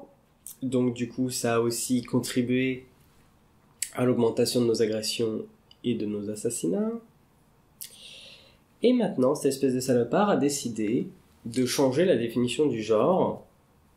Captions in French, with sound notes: Donc du coup ça a aussi contribué à l'augmentation de nos agressions et de nos assassinats... [soupir] Et maintenant, c't'espèce de salopard a décidé de changer la définition du genre